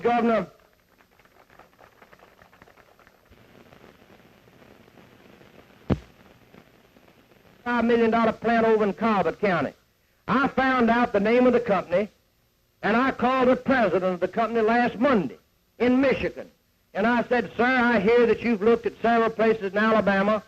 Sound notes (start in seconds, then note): 5.3 tape hiss